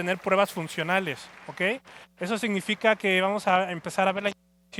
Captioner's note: aplauso